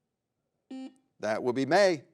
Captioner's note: buzzer beeps